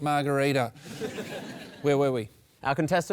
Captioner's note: laughter